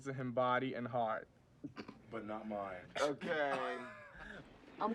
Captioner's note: laughs